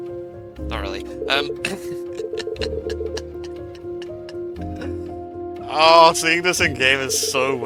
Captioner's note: insane laughing